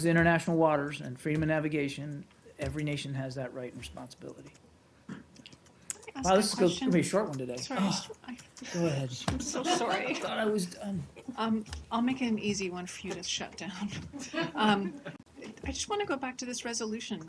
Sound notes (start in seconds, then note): 14.1 laughter